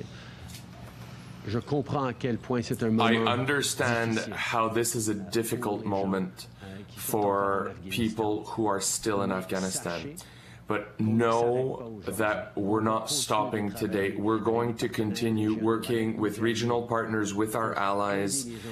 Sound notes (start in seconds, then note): 6.1 speaking French